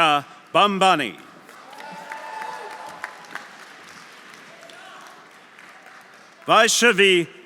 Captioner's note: audience applauding; audience cheering